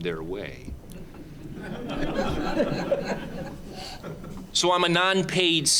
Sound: audience laughing

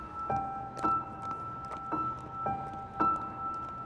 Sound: footsteps

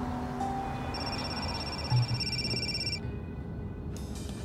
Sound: phone ringing

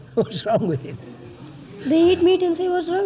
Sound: laughs

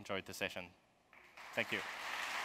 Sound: applause

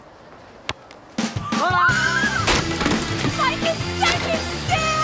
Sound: screaming

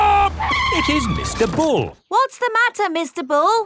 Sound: tires screeching

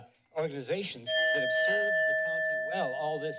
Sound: timer dings

